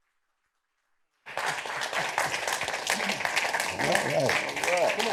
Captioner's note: applause